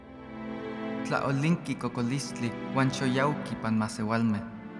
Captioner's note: speaking Native language